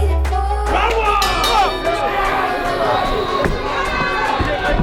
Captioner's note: bell dings